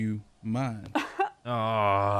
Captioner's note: scoffs